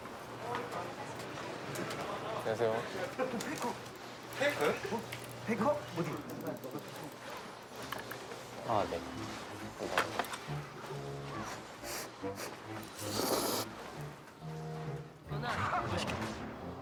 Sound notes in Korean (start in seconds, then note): 11.4 후루룩 소리; 11.7 후후 부는 소리